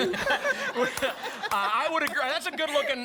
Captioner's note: laughter